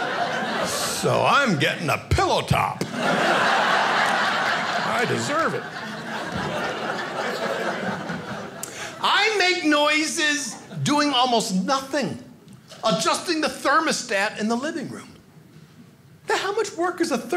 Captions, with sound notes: "So I'm gettin' a pillow-top! (audience laughing) "I deserve it." I make noises doing almost nothing. Adjusting the thermostat in the living room. How much work is a thermostat?